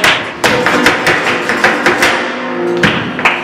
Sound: clapping

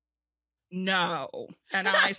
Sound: laughs

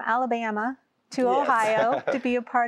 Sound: laughter

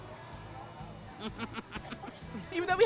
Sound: chuckling

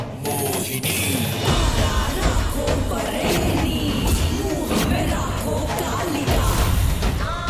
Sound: chant

